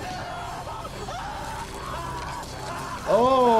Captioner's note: dramatic music; man screaming